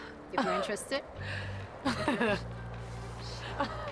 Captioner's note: laughs